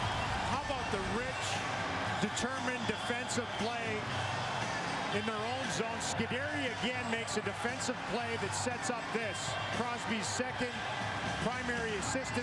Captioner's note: cheers and applause